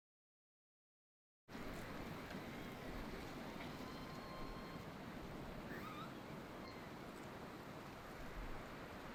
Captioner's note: silence; overlapping tree creaking and wind blowing